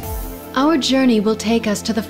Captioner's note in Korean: 보이스오버